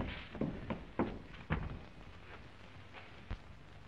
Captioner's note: door thuds